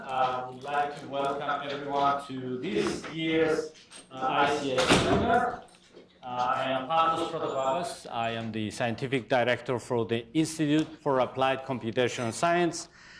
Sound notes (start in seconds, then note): 4.6 door slams